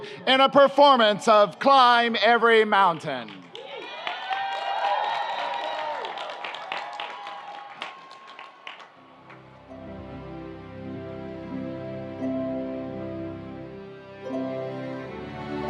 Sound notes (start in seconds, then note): 5.3 audience applauds; 5.3 audience cheers